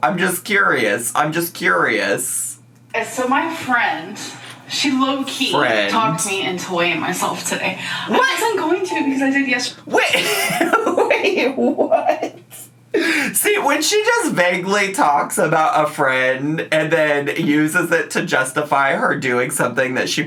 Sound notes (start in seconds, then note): 9.9 laughs